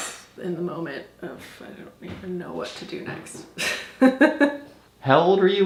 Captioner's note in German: lacht